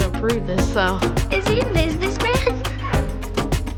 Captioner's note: giggles